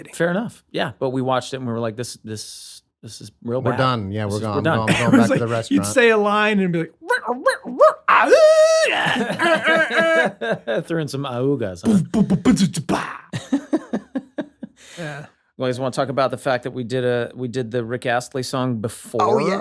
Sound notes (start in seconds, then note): 6.9 vocalizing noises; 9.0 laughter; 11.9 vocalizing noises; 13.3 laughter